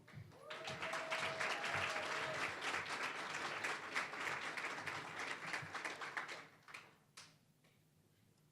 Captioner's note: applause